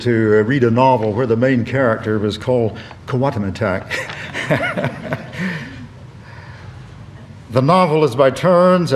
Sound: laughter

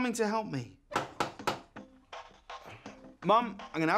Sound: knocking on the door

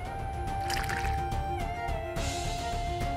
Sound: pouring juice

